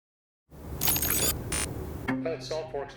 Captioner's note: computer bleeping